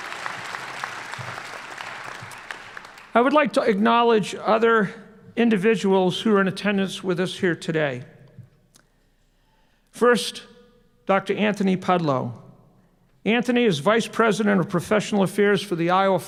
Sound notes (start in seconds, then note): 2.0 applause